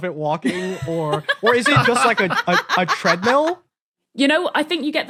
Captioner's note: others laughing